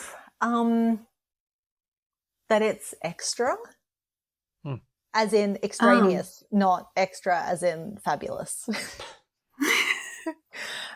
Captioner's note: laughter